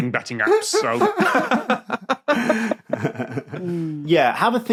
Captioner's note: laugh